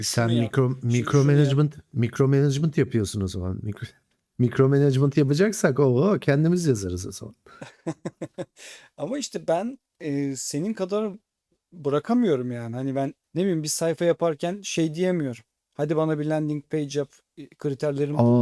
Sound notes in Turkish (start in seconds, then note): 7.5 kahkaha